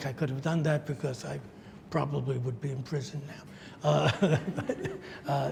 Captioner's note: laughs